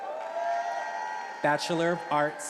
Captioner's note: attendees applauding and cheering